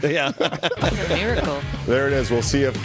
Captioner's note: laughter